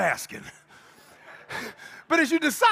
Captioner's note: crowd laughing